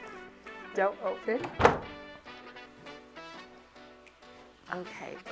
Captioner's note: door lock clacking